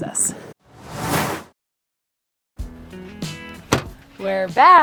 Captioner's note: screen whooshing